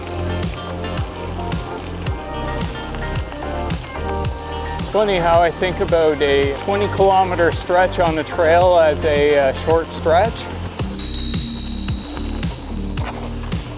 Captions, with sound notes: It's funny how I think about a 20 km stretch on the trail as a short stretch. [bicycle bell dings]